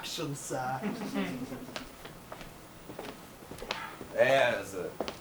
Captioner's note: audience laughs